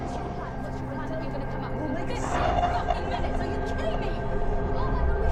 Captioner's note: voices echoing